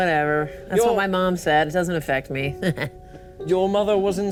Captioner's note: chuckles